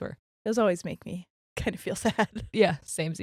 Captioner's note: laughs